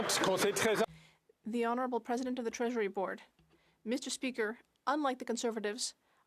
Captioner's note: some Applause